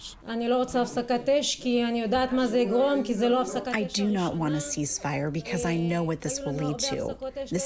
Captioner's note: through translator